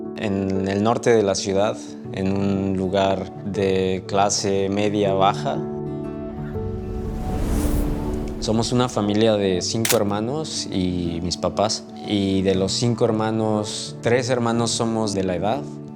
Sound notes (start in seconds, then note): 5.9 soft music continues; 9.8 camera clicks